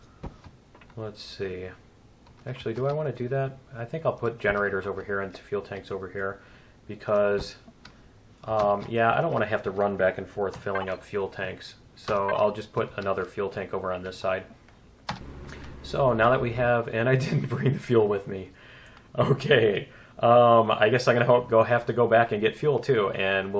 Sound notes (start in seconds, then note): 17.0 laughs